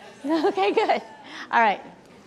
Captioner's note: people laughing